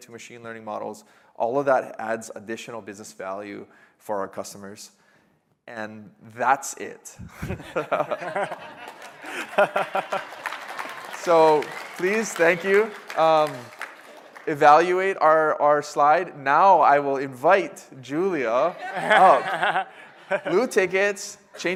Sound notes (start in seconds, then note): 14.0 applause